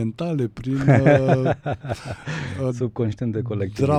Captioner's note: laughter